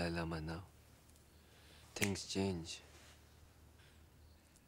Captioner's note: snaps